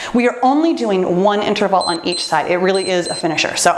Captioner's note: timer beeps